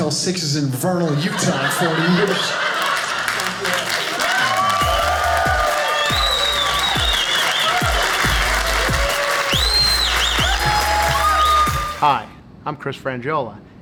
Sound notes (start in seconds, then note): 4.0 audience cheers